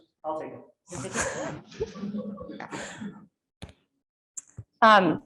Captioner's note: audience laughing